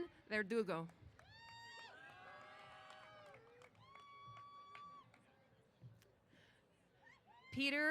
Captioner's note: applause & Cheers